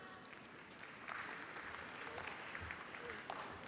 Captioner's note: applause